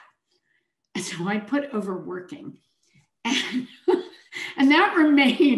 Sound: chuckles

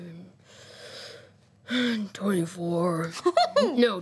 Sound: sighs

